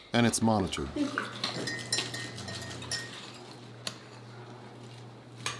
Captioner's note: cutlery clinking